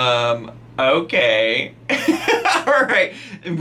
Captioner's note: laughs